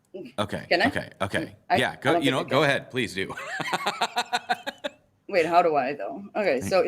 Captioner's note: laughs